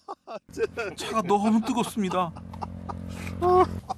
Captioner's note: A burst of laughter because the tea is too hot